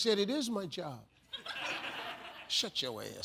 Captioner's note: audience laughs